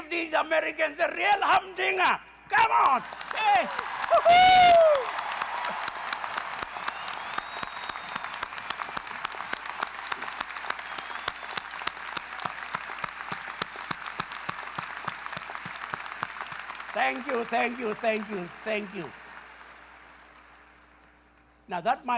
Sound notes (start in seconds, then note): 10.5 applause